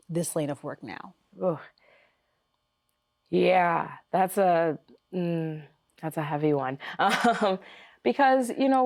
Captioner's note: chuckles